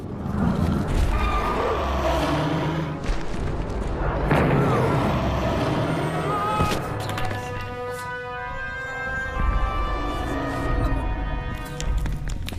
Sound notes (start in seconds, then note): 0.4 roaring; 4.3 screams